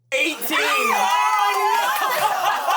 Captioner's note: everyone cheers